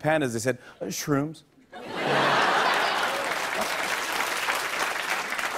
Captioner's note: laughter and applause